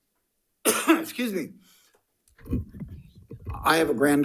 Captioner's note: coughs